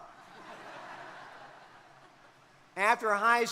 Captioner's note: crowd laughing